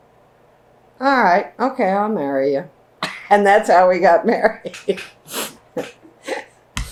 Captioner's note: laughs